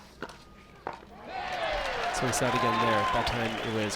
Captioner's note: crowd cheers